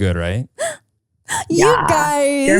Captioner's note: gasping